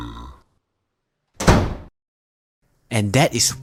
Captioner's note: door SLAMS